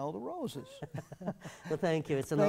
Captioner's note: laugh